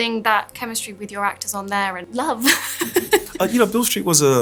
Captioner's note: laughs